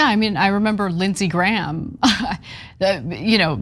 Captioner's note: laugh